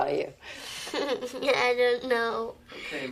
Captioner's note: Abby giggles